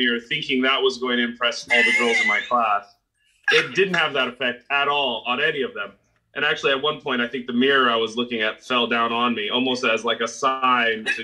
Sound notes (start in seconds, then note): 3.4 laughs